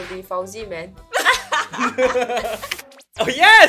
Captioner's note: laughs